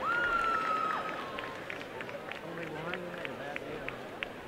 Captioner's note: applause